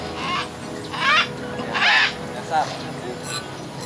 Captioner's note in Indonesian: Suara Burung